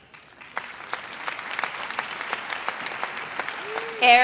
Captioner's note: audience applauds